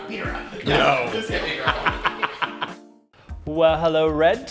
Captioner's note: laughs